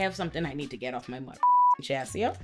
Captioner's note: beep